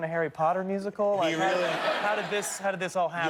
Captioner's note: laughter